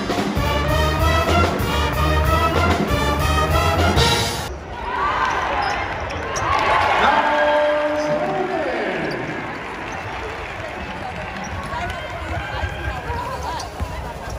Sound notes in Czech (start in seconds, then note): 4.3 Potlesk